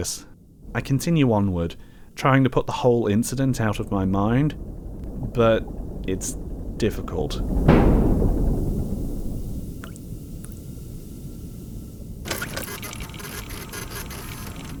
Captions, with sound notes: I continue onward, trying to put the whole incident out of my mind. But it’s… difficult. [METALLIC BANG] [PHOTO STATION CLICKS AND WHIRRS]